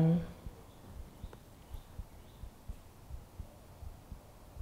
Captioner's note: birds chirping